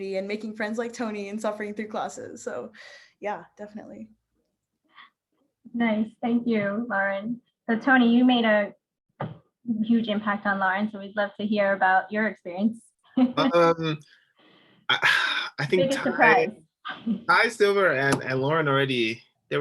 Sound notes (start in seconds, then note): 14.2 laughing